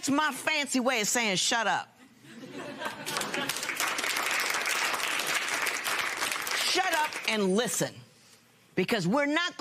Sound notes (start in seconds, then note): 2.0 laughter; 3.0 applause